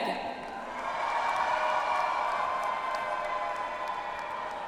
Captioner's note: audience applauds